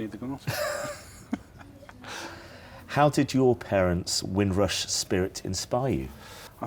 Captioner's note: laughs